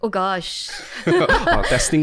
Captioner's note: laughter